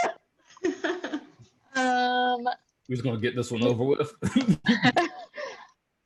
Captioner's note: laughs